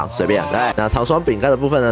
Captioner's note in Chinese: 怪叫